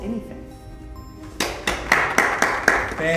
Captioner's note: audience applause